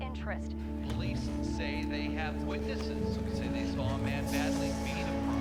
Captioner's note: TV announcer chattering